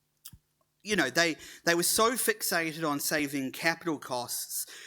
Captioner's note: none